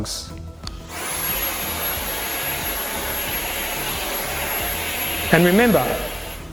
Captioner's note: vacuum whirling